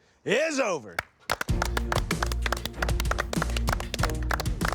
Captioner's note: applause